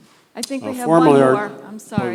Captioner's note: voiceover